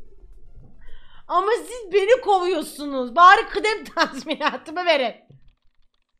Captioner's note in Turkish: gülerek